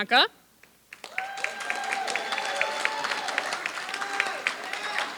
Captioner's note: applause